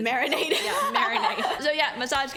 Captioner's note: laughs